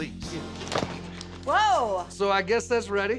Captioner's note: thud